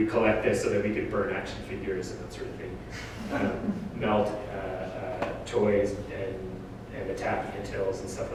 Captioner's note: audience: Laughter